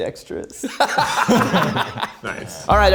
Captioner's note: group laughs